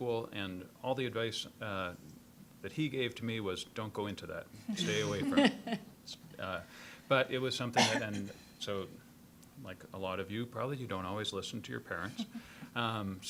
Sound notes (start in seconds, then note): 4.8 panelists laughing